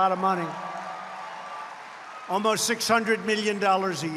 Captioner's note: applause